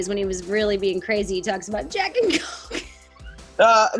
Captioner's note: laughs